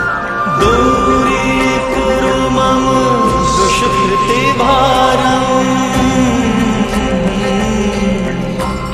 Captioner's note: chanting